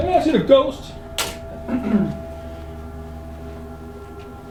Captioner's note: faintly speaking